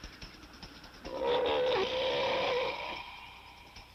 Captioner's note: loud growl